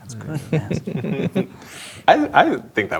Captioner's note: players chuckling